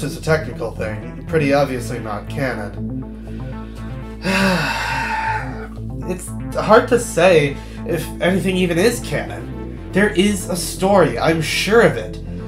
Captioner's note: sigh